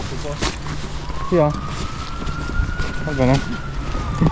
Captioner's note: police sirens